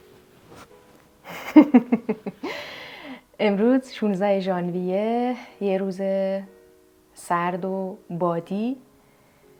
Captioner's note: laughter